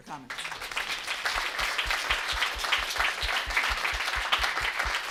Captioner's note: applause